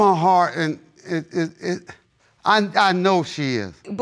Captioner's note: stammers